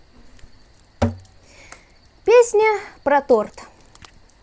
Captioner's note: sigh